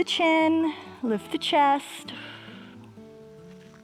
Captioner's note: inhales; exhales